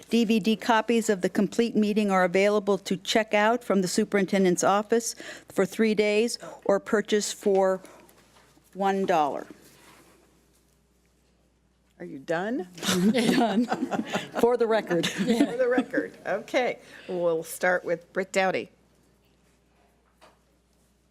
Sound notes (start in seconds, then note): 12.9 audience laughs